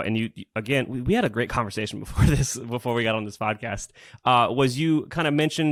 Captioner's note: laughs